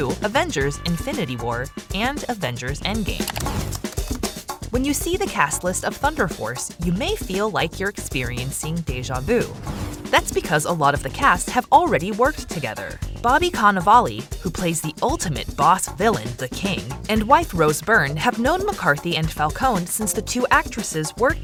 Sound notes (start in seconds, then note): 3.1 keyboard clicking